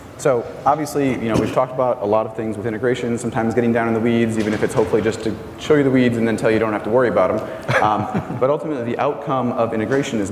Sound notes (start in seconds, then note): 7.5 laugh